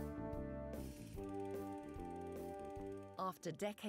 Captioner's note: projector whirring